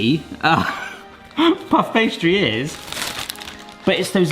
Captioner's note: laughs